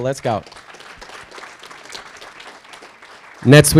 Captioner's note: audience applauding